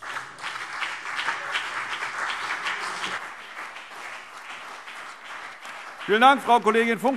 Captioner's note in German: Beifall CDU und BÜNDNIS 90/DIE GRÜNEN